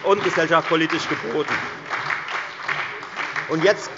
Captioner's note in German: Beifall bei der FDP, der SPD und der LINKEN